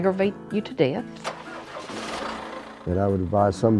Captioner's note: tractor starts